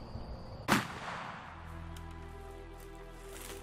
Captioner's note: shot fires